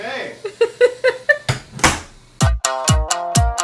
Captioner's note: more laughing; upbeat string music